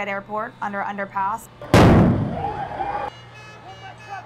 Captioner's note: explosion